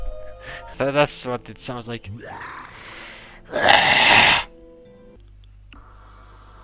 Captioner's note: growls back; in-game growl